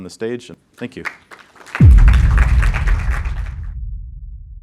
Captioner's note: applause